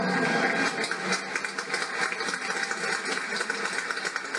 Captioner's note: applause